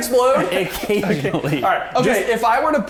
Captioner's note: chuckling